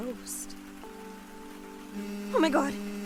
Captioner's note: phone vibrates